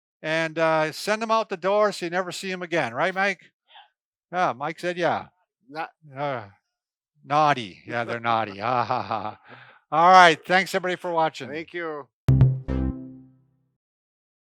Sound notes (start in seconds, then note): 7.8 laughs; 12.2 upbeat music